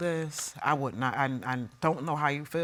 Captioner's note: stammers